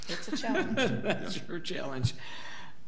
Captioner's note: board laughs